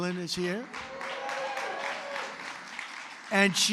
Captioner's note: applause